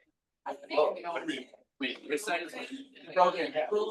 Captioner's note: people chattering distantly